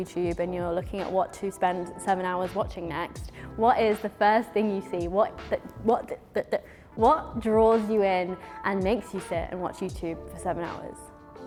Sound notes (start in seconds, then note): 5.4 stutters